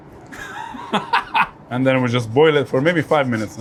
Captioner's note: laughs